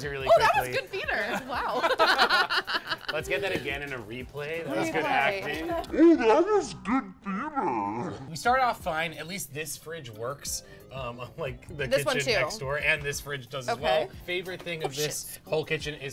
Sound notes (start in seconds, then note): 1.2 laughs; 6.8 distorted voice